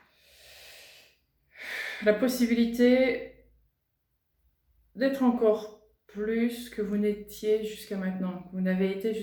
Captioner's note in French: soupir